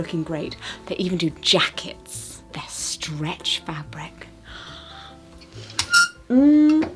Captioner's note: gasps